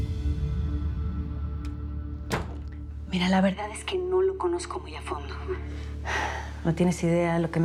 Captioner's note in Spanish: ruido al cerrar la puerta